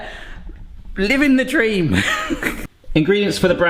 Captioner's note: laughing